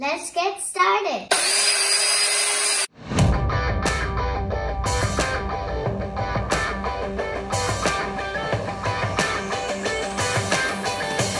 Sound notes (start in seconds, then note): 1.3 sound of drill turning